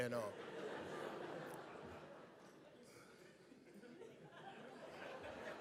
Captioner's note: audience laughs